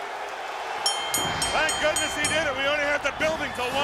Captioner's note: bell ringing